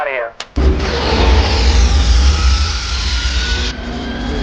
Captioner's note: engine roar